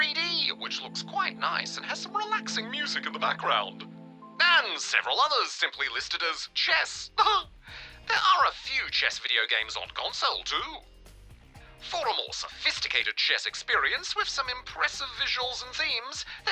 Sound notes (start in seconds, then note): 7.1 laughs